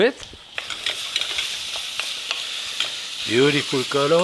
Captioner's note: pan sizzling